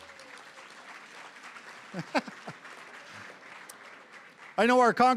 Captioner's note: applause